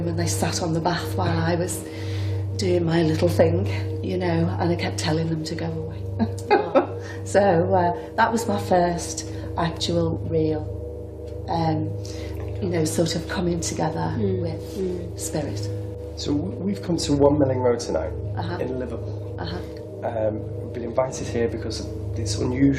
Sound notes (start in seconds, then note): 6.2 laughs